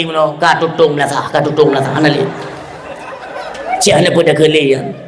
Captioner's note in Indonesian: tertawa